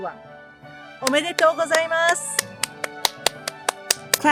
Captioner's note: speaks in japanese